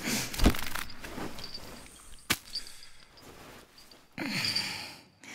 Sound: clothes rustling

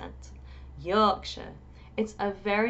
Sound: in a Yorkshire accent

